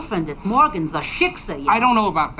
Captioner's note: speaking in foreign language